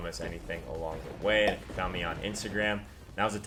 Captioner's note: pop